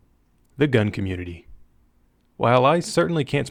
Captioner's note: voiceover